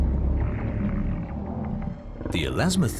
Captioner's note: snorting